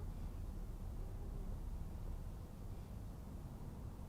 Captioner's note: none